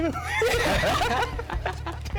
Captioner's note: both laugh